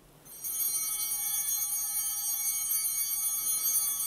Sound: bell ringing

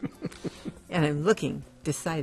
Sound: laughing

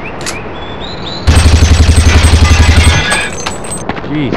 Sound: Silencer M4 Shoots!

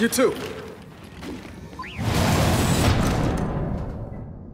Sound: gunshots

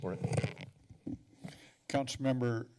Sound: mic noise

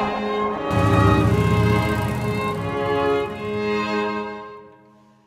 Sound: motorcycle roaring

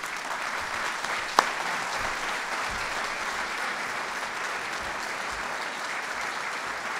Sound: applause

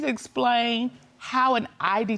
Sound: none

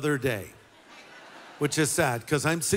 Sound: audience laughter

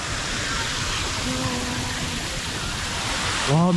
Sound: water cannon

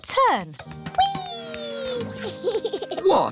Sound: laughs

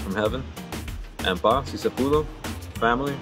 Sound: speaks in foreign language

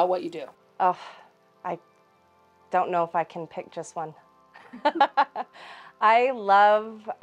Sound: laughing

